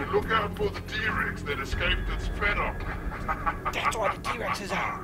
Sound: laughs

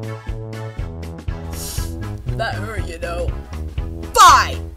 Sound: sniff

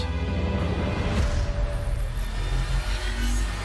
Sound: zapping; high intensity buzzing

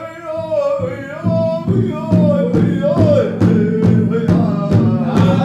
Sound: chanting; drumming

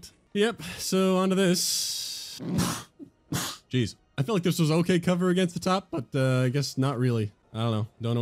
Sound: double sneeze

